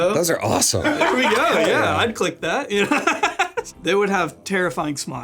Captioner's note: laughs